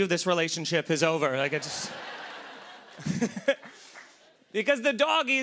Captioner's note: laughter